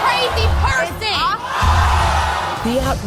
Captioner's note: audience exclaims